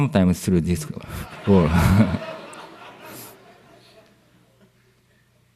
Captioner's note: laughter